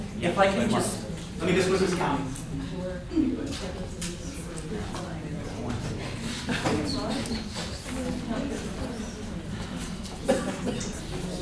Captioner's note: background Talking